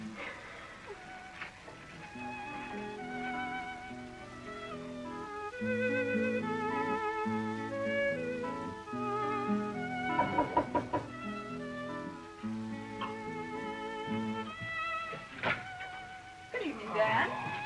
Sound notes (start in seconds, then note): 2.3 peaceful classical music; 10.2 knocking at door